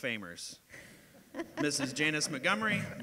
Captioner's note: audience laughter